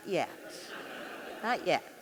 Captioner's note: audience laughing